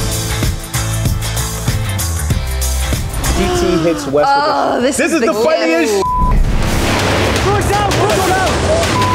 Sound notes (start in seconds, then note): 6.0 beep